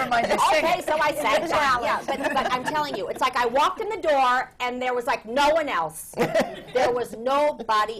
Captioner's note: laughter